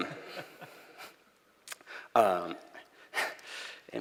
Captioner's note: laughter